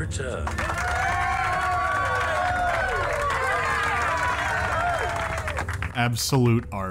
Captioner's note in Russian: горожане торжествуют